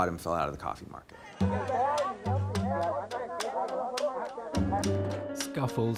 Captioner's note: speaking Spanish